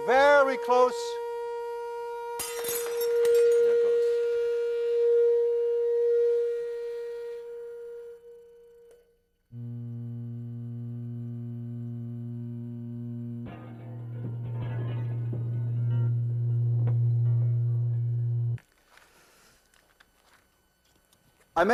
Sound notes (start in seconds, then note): 1.9 tone fades away; 2.4 shatters loudly; 8.9 shatters slowly; 9.5 lower tone plays as slow-motion replay begins